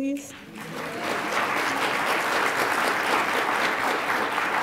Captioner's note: attendees applaud